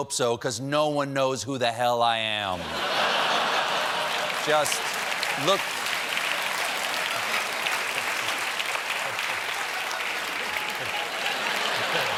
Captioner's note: applause; laughter